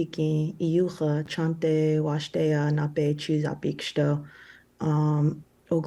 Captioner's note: speaking Native language